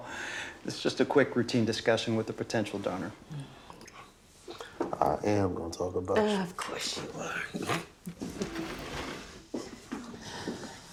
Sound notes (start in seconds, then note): 8.0 laughs